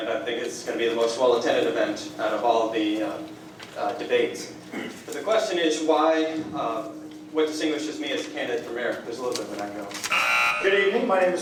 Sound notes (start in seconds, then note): 10.0 buzzer